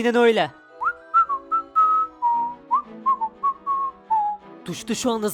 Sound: whistling

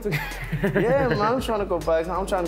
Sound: laughter

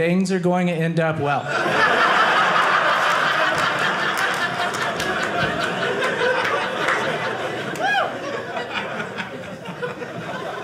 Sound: audience laughing

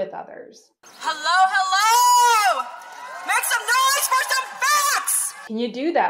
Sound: crowd yelling let s hear the facts

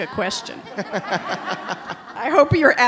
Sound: audience laughing

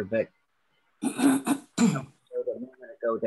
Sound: voice clearing

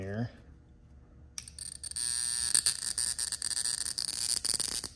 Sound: switch clicks, wand buzzes

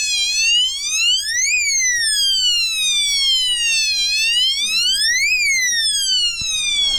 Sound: siren

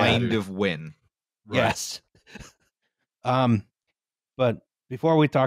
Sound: chuckles

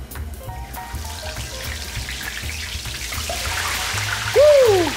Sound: oil sizzling

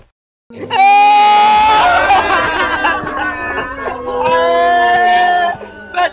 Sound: crying

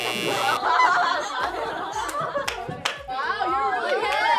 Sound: buzzer ringing; group laughing

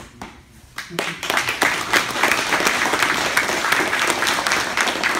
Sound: applause

